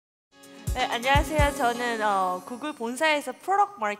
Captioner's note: speaking korean